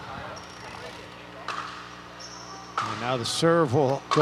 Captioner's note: people chattering